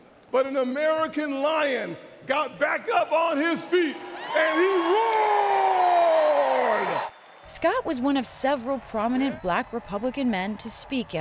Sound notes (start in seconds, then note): 7.4 cheering and applause